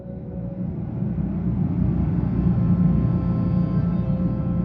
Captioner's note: plane engine roaring